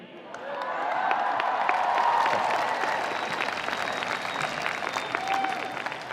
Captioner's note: audience applauding; audience cheering